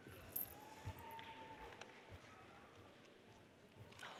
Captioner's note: audience cheers